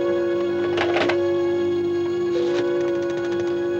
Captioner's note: rotary phone dialing sounds